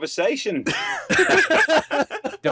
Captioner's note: laughter